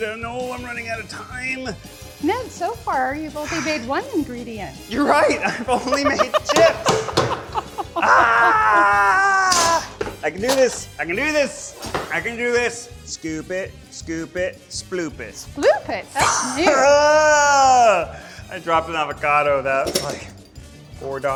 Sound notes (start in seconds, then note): 8.0 screams; 16.2 groans